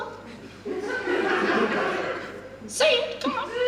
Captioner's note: audience Laughs